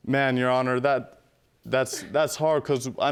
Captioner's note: scoffs